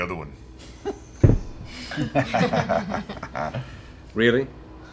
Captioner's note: laughter